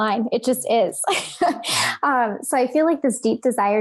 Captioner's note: laughs